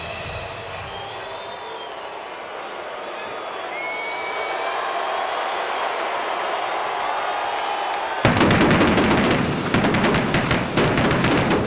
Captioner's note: applause